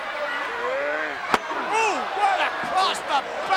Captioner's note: chair thuds